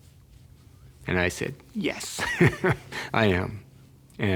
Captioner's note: laughs